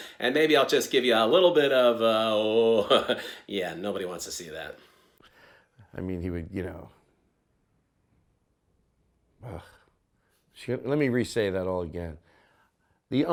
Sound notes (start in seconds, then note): 2.5 chuckling; 9.4 groaning